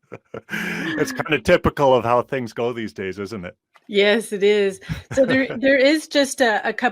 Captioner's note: laughing